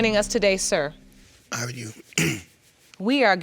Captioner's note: clears throat